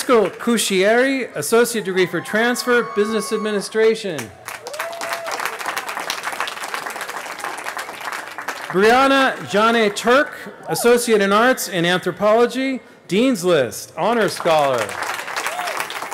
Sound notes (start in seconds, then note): 4.8 cheering